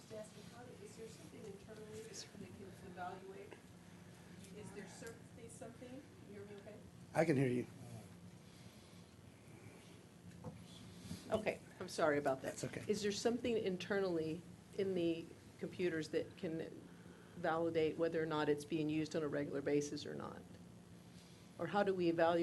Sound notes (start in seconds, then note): 4.2 off mic